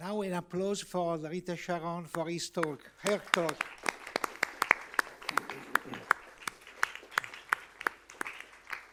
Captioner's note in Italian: Applauso